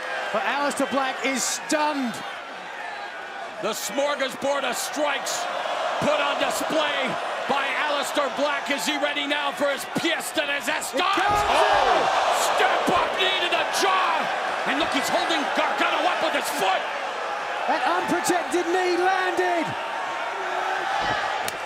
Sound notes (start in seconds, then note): 10.0 speaking in foreign language